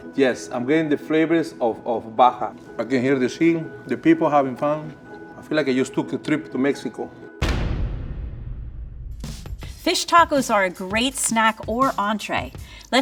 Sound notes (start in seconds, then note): 7.5 pointer thuds; 9.1 beat music